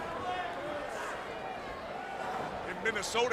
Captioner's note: crowd cheering